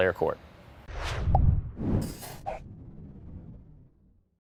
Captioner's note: whooshing logo